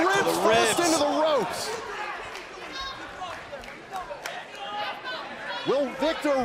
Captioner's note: crowd cheering